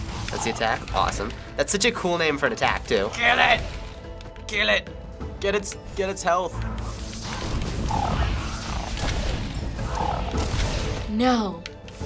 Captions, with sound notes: - That's the attack? Awesome. That's such a cool name for an attack too. - (strained) Kill it! Kill it. Get it's health. (in game: creature snarls) - No!